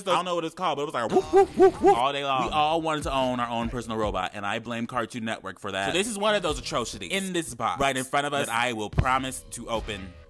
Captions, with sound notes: I don't know what it was called but it was like. (man barking) All day long. We all wanted to own our own personal robot and I blame cartoon network for that. So, this is one of those atrocities in this box right in front of us that I will promise to open